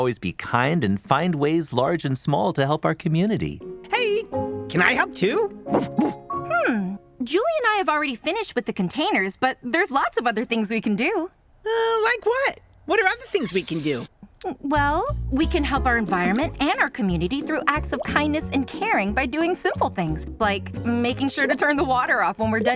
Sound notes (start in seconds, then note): 5.7 barks